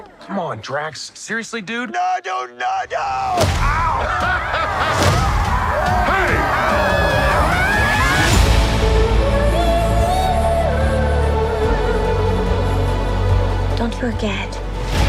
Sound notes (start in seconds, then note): 3.6 laughing; 6.5 screaming